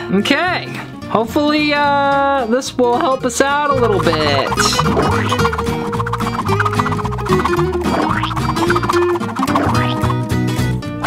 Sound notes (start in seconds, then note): 3.7 pen swooshing